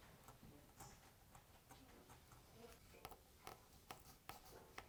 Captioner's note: chisel scratches softly